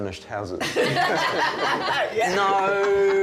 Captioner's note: all laughing